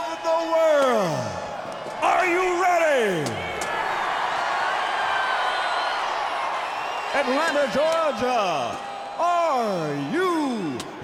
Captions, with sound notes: Are you ready? (crowd cheers) Atlanta, Georgia, are you ready?